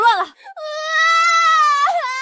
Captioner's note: cries